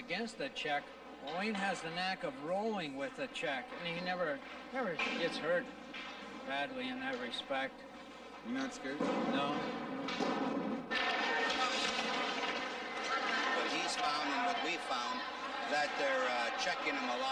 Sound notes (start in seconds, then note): 13.0 audience cheering; 13.0 skates scraping